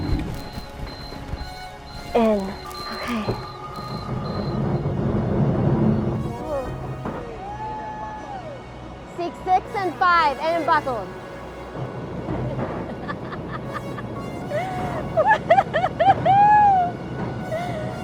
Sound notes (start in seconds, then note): 7.0 all cheering; 14.4 laughing